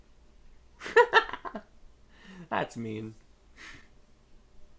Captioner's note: laughs